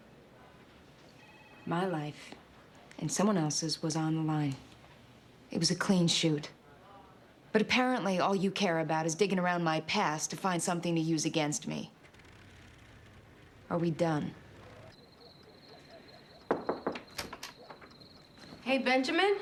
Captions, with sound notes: My life and someone else's was on the line. It was a clean shoot. But apparently all you care about is digging around my past to find something to use against me. Are we done? ( crickets chirping ) ( knocking ) Hey, Benjamin?